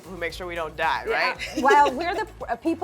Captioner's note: laughs